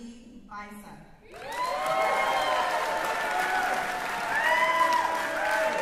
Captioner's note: cheering